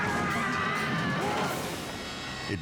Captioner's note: tourist screams; woman screams